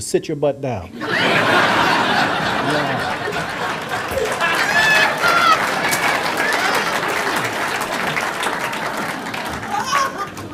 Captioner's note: audience laughter and applause